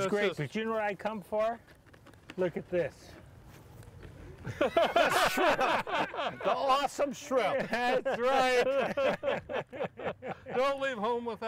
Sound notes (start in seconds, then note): 4.4 all laughing